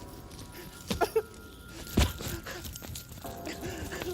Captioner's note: whimpering